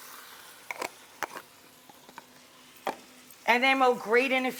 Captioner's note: lid clunks